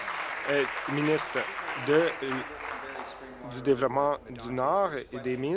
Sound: applause

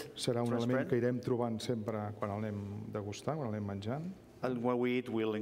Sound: speaking catalan

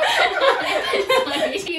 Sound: “laughing”

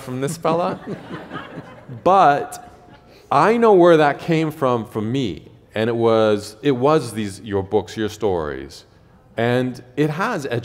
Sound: laughter

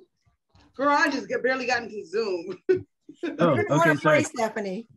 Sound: chuckles

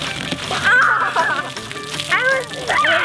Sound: laughs

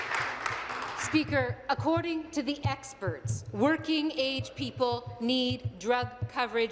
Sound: applause

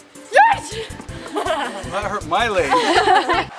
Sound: laughing

